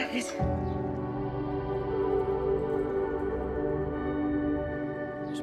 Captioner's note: birds chirping; speaking in foreign language